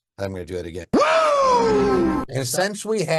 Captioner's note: virtual attendee cheering